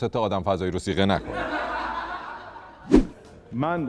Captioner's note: laughter